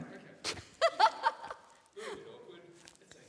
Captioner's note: laughs